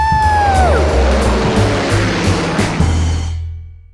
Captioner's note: airplane whooshing